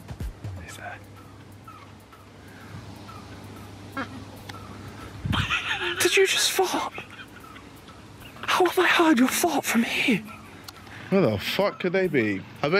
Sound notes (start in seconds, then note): 4.0 small toot; 5.2 laughing